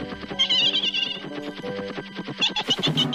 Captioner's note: giggling